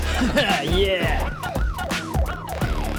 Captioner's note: fantasy police car sirens